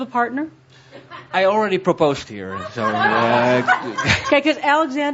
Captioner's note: laughter